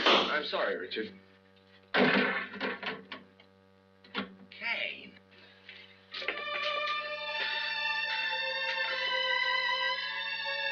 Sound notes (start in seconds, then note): 1.9 blowtorch bangs on the table; 6.1 romantic music plays